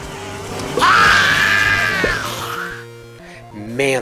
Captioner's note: screech